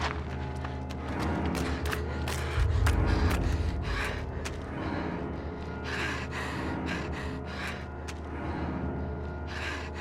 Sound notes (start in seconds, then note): 4.6 breathing heavily